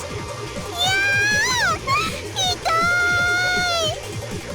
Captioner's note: panicked cry